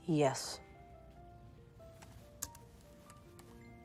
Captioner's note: typing